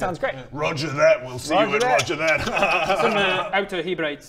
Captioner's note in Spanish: Jajajajaja